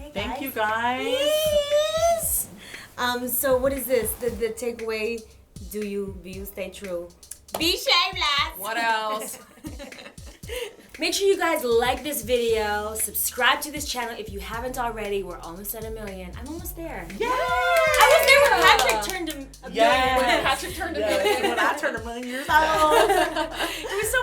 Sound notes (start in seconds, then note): 8.9 laughter; 17.2 cheering